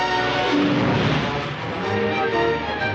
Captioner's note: horn blowing